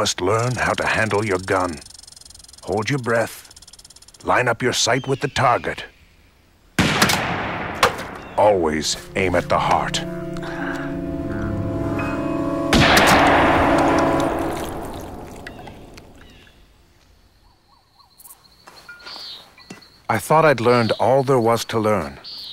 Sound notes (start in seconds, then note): 6.8 gunshot; 12.7 gunshot